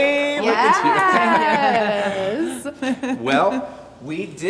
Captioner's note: laughing